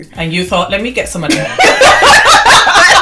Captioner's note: laughter